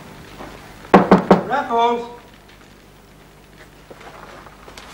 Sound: knocking

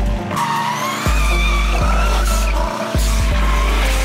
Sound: tires squealing

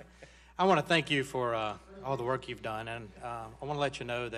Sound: laughter

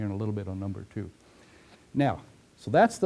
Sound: pause

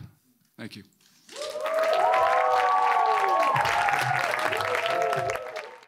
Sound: audience cheering and clapping

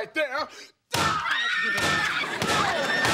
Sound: screaming

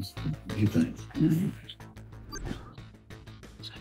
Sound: electronic beeps trill

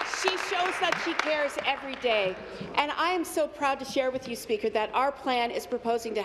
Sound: applause

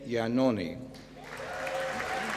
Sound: applause

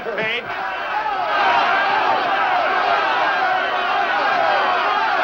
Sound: crowd shouting

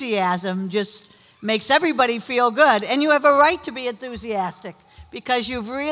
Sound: none

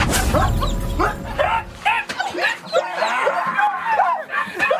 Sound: all shouting

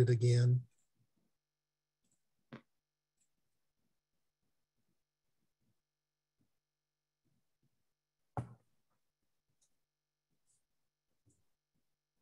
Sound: silence

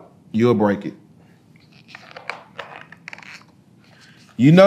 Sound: pages rustling

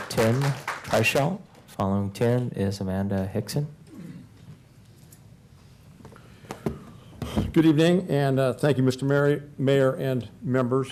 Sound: applause

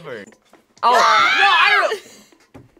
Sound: screams

